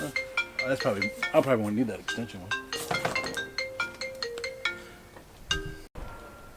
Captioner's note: cell phone ringing